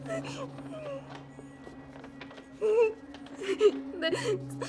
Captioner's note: Aleks sobbing